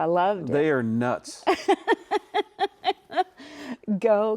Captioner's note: laughing